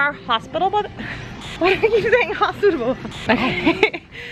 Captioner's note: laughing